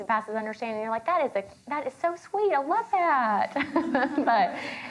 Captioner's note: chuckles